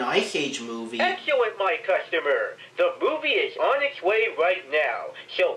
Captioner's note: from phone